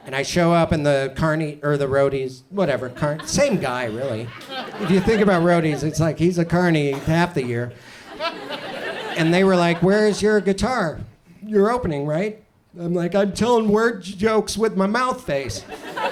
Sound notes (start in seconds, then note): 6.9 audience chuckles